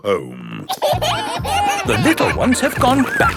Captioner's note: kids giggling